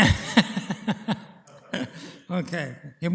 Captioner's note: laughter